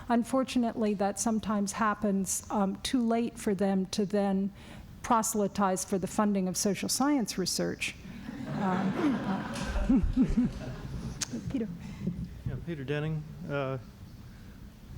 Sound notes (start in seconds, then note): 8.2 laughter